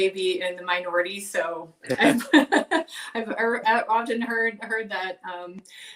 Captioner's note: laughing